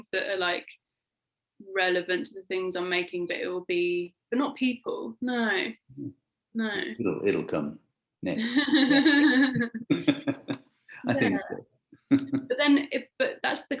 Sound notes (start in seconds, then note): 8.5 laughing